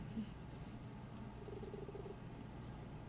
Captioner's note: text beeping